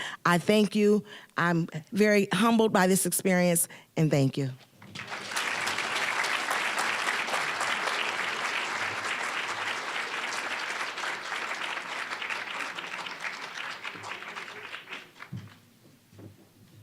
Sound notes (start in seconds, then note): 4.8 applause